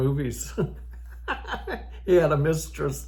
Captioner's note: old Man laughing